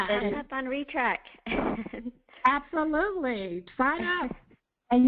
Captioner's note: multiple voices